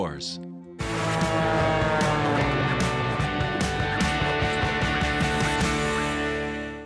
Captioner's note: upbeat music; airplane whooshing